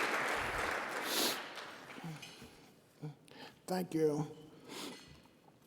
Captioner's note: sniffs